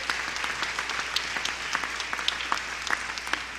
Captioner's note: applause